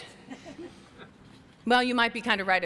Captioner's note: chuckles